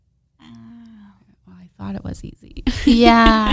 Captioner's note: laughs